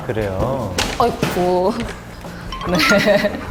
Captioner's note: laughing